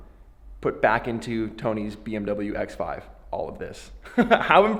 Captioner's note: laughs